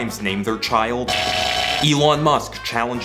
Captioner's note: electronic sounds